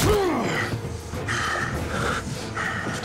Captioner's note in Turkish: Yumruk sesi; Nefes sesi